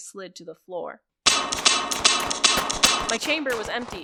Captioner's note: click, click, click, reload, cresendoing battle sounds